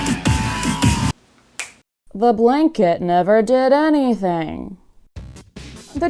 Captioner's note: snap